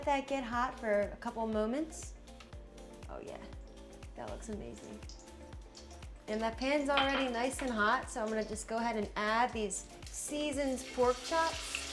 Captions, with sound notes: - We'll let that get hot for a couple moments. Oh, yeah. That looks amazing. (oil sizzling) And that pan's already nice and hot, so I'm gonna just go ahead and add these seasoned pork chops.